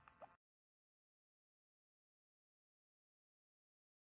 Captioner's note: silence